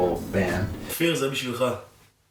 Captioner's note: speaking hebrew